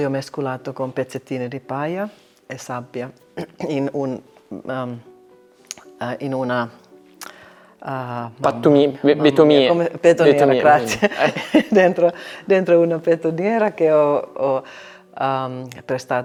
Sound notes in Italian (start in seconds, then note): 10.8 risate